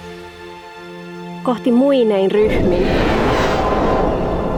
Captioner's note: speaks in Muinein language